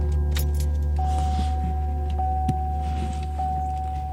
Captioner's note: car beeping